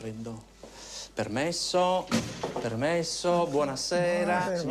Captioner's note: Italian spoken audio